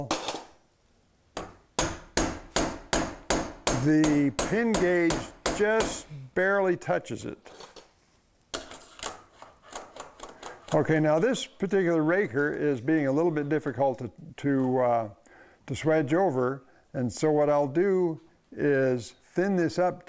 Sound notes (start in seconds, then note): 0.0 metal-on-metal clanging